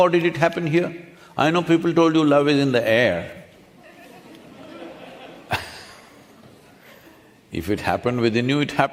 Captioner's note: few laugh